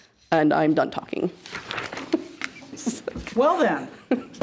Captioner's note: laughs